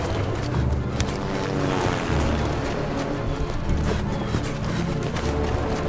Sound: aircraft passes overhead

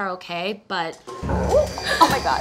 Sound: mixer whirring

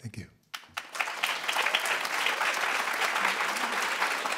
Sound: applause

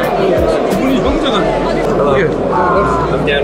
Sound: speaks in foreign language

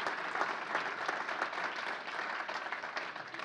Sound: applause

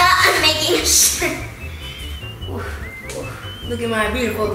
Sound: laughs

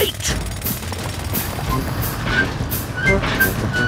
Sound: drilling

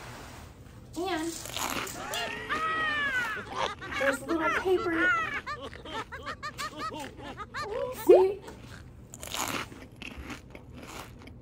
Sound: laugh

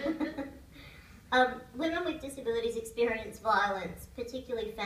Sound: laughter

